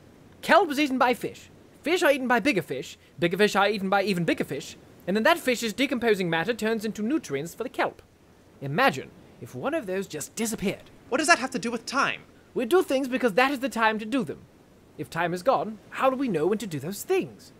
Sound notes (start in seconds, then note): none